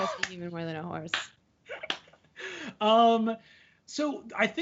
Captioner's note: clapping